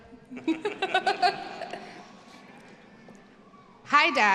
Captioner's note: laughs